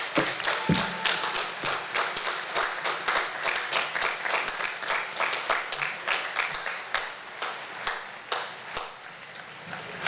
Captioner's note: applause